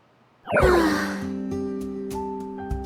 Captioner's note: sigh